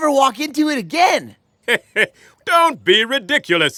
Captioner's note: chuckles